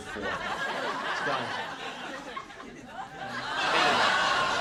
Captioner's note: audience laughing